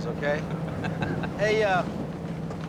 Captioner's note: laughing